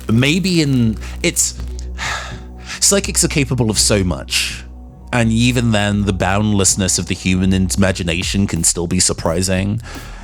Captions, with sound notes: Maybe in... It's.. [Sigh] Psychics are capable of so much And even then, the boundlessness of the human imagination can still be surprising